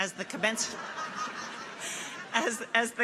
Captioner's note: people laugh